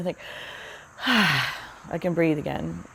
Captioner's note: sighs